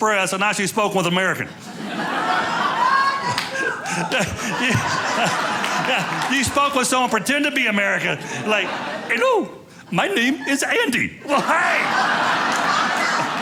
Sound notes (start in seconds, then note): 1.8 audience laughing